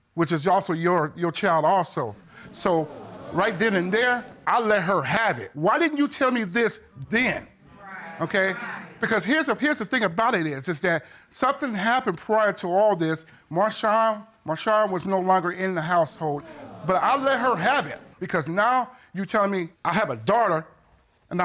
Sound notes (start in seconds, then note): 2.5 audience exclaiming